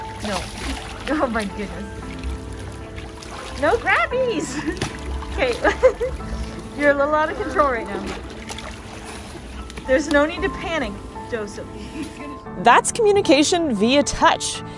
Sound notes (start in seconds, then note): 0.0 water splashing noise; 2.3 water splashing noise; 3.4 chuckles; 8.3 water splashing sounds